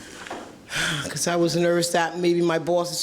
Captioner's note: gasps